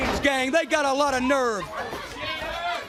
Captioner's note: crowd cheering